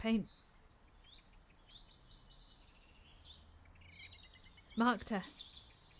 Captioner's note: birds continue chirping